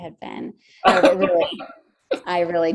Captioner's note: laughing